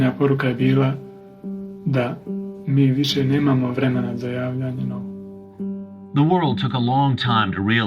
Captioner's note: soundbite of archived recording